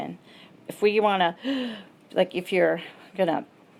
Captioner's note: gasps